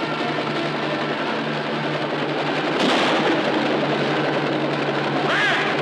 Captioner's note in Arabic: صوت طلقة نارية مرتدة